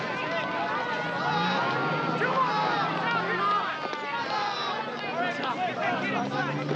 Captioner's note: siren in background